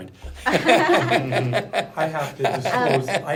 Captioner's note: laughter